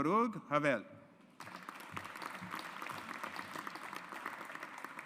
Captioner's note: audience applauds